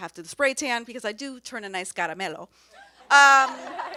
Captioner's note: speaks foreign language